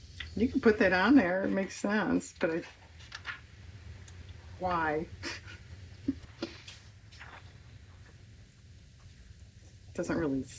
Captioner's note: laughs